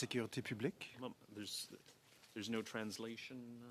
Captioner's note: speaking French